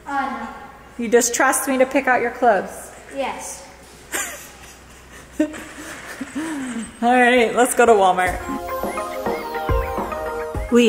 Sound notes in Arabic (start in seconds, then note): 4.1 تضحك; 8.2 موسيقى إيقاعية